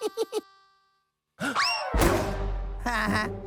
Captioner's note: chuckles; gasps